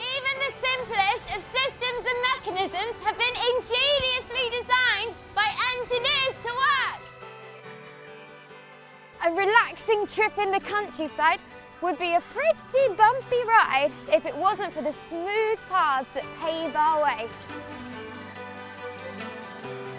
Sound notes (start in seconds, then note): 7.6 we hear the bicycle bell as the girl is riding bike across the grass